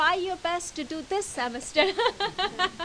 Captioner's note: laughter